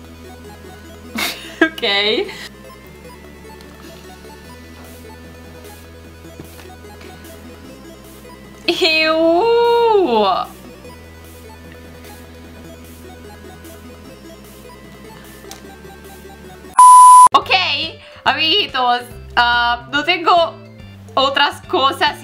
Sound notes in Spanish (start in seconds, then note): 1.1 risas